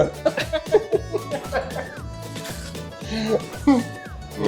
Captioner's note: everyone laughs